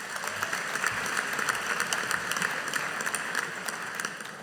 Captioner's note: audience applauding